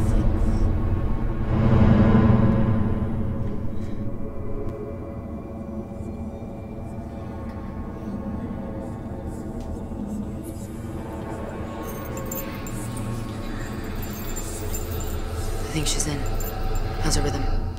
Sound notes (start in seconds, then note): 1.2 dramatic music; 6.9 eerie whispering